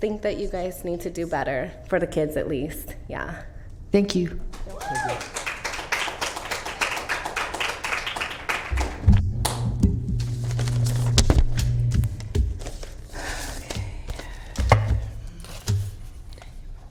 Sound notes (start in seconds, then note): 9.5 applause